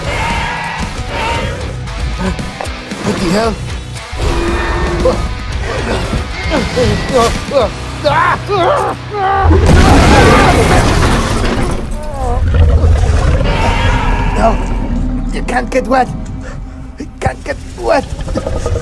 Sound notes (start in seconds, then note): 9.6 crashing sounds